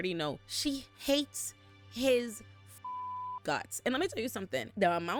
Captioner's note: beep